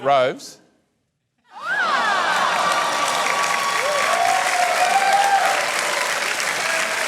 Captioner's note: cheering, applause